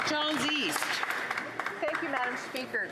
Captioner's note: some Applause